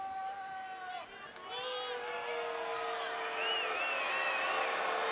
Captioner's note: crowd boos